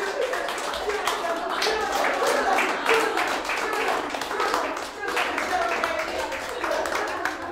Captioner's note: clapping and Laughter